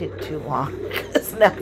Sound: laughs

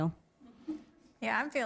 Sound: laughter

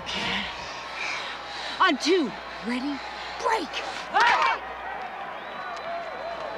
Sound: women clapping

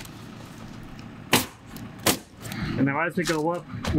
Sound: nail gun bangs

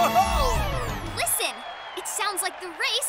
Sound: crowd cheering

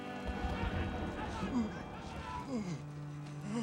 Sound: groaning

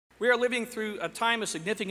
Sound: voiceover

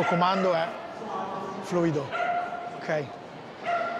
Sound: speaks in Italian

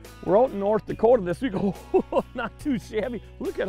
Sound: laughing

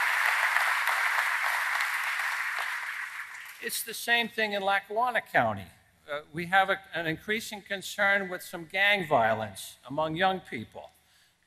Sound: applause

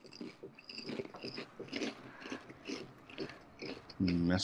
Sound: chews popcorn

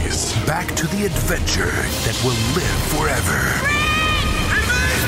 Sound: voiceover

